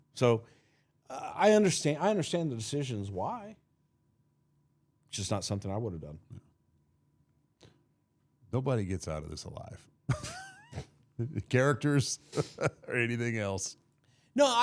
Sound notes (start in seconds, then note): 12.2 chuckling; 12.2 laughing